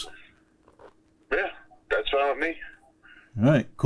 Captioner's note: voice On Phone